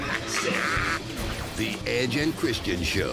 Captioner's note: laughter